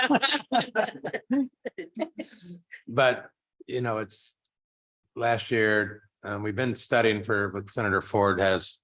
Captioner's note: laughter